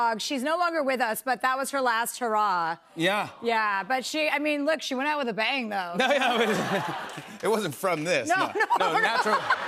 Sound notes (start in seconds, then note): 5.9 laughter